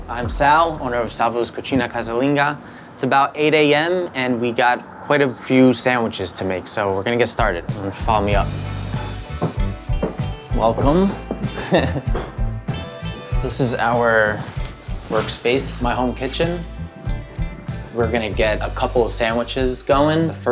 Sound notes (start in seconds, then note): 9.0 gentle music; 11.4 chuckles